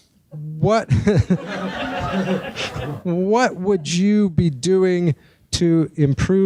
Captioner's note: audience laughing